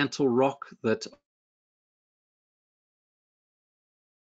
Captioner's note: audio lost at this point